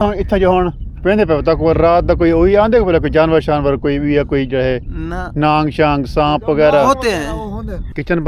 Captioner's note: speaking Saraiki